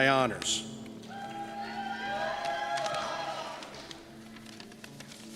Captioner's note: cheers